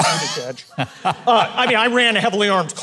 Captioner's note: Mike laughs